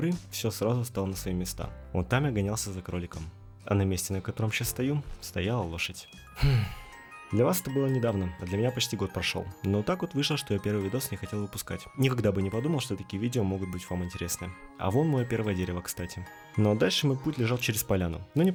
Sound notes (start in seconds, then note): 6.4 sigh